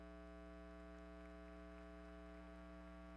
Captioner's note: applause